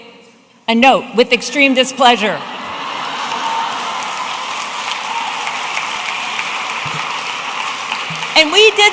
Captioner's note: audience applauding